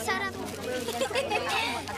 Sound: giggles

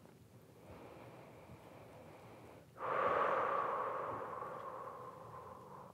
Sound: deep breath

